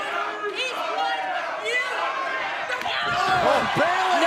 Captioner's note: shouting